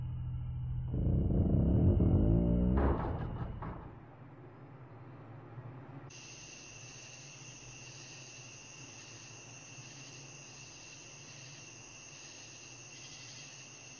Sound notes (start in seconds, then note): 6.4 crickets